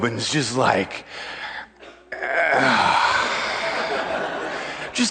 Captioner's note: huge dramatic groaning sigh